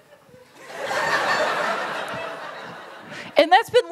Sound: laughter

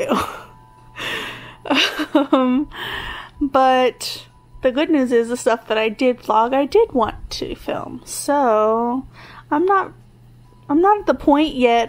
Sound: laughs

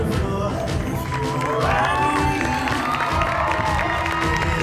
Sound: audience applauds

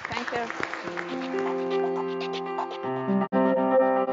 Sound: applause

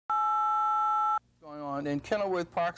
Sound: phone beep

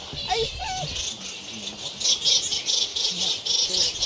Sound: loud bat chattering

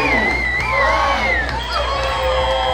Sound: cheers

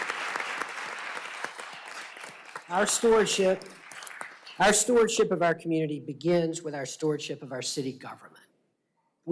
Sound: applause

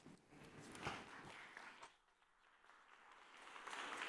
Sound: applauding

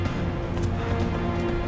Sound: running footsteps

